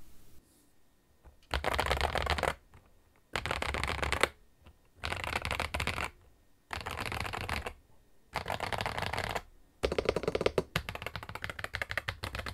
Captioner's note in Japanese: キーキャップの打鍵音